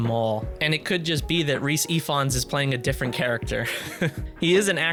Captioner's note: laughs